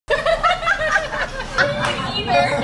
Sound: laughing

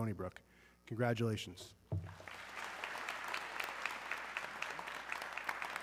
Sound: audience clapping

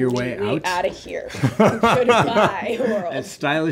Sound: laughing

